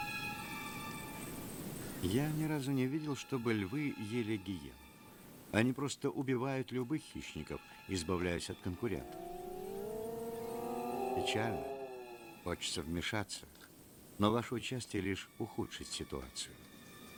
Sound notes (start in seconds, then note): 10.7 moaning